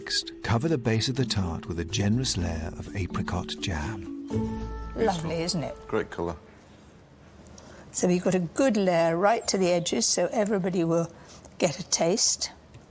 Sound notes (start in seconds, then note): none